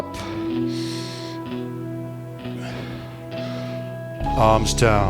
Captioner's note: breathing